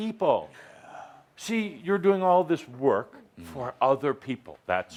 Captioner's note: none